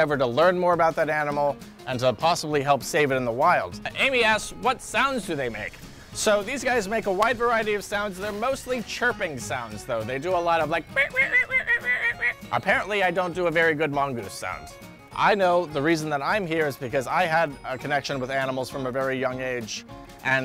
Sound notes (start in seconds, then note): 10.7 chirping